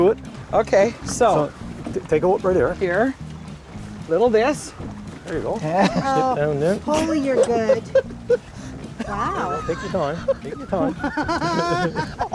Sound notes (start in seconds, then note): 9.1 laughing